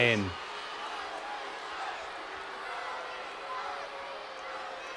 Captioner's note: audience shouting and booing